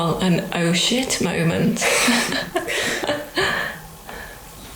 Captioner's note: both laughing